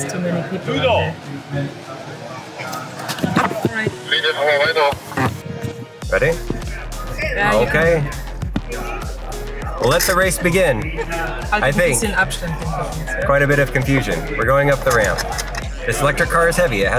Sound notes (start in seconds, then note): 4.8 announcer speaking in Italian